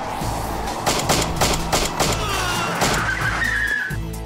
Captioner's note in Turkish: si̇lah sesleri̇